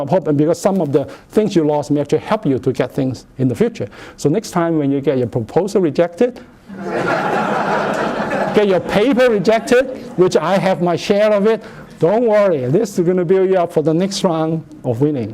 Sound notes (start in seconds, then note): 6.7 laughter